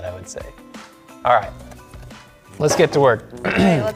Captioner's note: clears throat